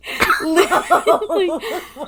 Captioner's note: laughing